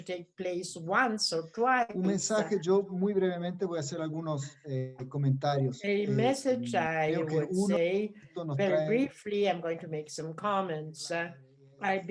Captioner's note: speaking in Spanish